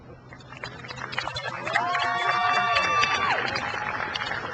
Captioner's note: crowd cheers